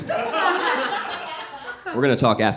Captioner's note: audience laughing